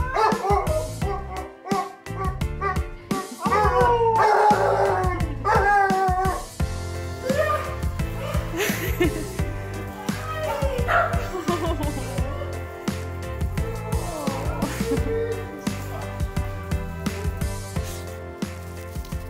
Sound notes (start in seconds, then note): 0.0 dog barks; 3.1 dog howls; 8.6 onlooker laughing; 9.7 dogs barking; 10.4 onlooker laughing